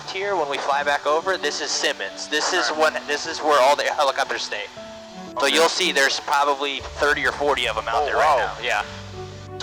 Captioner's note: none